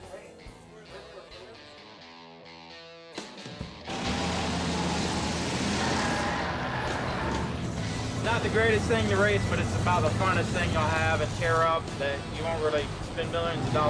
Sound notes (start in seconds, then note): 0.6 rock music; 4.4 engine rumbling; 6.0 tires squealing